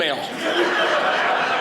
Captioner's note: audience laughing